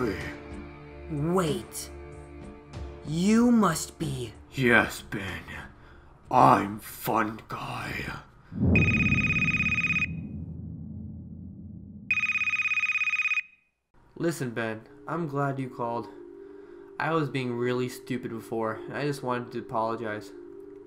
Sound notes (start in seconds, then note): 8.5 boom; 12.1 phone ringing